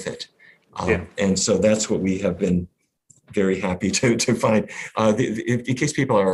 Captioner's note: laughs